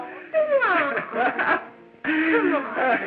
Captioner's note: laughing